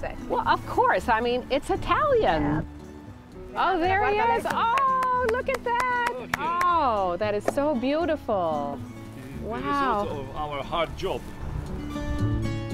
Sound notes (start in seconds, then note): 4.4 clapping